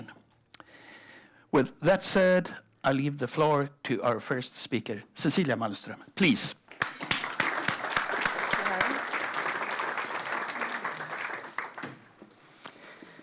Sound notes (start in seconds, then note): 6.7 applause